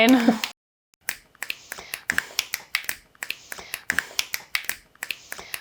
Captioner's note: fingers snapping